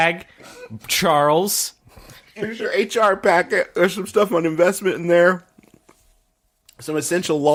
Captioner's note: laughing